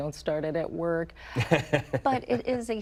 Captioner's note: interviewer laughs